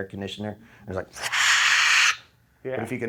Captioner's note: air conditioning noise